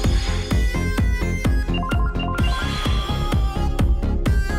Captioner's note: phones beeping